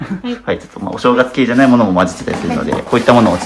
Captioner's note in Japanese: 咳払い